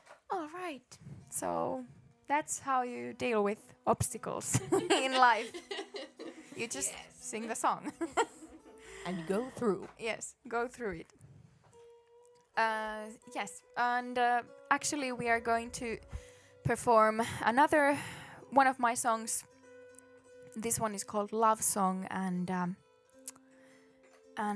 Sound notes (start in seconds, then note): 4.5 laughter